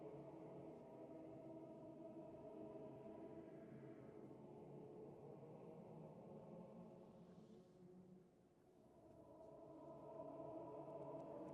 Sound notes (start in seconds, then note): none